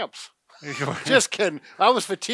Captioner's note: both laugh